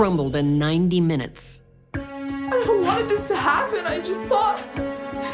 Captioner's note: crying